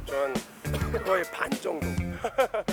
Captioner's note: cough cough; innocent laugh